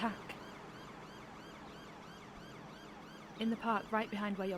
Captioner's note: sirens continue whining